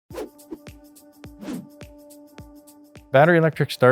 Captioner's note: air swooshing